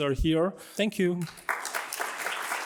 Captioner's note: applause